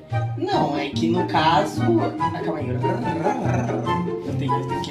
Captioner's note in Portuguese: enrolando a língua